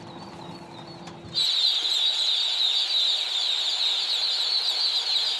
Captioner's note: ducklings quacking